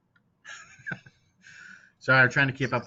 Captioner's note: chuckling